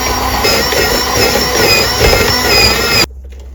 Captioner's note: electric slicer